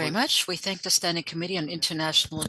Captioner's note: speaking French